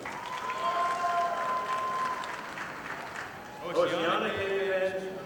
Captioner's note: audience applauding